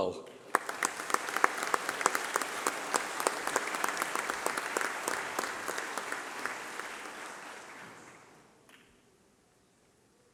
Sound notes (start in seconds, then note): 3.2 applause